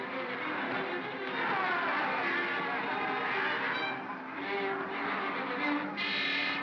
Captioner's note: girl screams; suspenseful music; bogeymen growling; suspenseful music